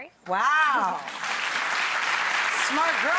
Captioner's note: audience applauding